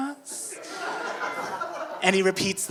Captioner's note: audience laughing